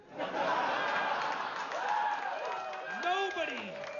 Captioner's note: risas, vítores